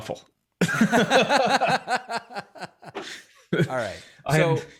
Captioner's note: both laugh